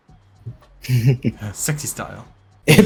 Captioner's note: chuckles